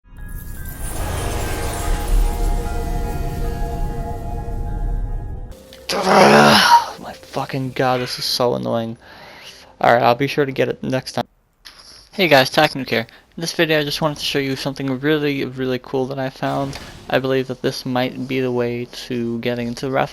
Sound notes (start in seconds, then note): 0.0 groan